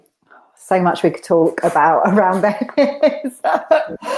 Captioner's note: laughs